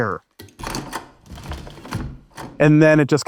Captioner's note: chair clicks and whirs